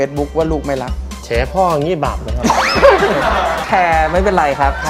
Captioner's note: laughing